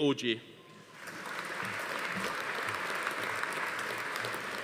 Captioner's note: audience applauding